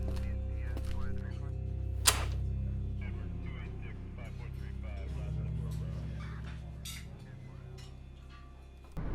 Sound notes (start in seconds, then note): 2.8 police radio chatters